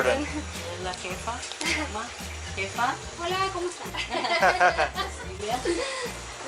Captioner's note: laughter